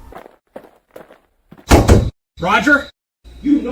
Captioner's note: footsteps stomping